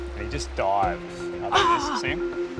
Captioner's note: gasps